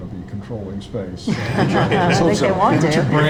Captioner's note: all laughing